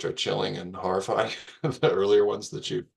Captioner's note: laughing